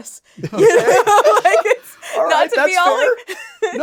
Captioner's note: laughing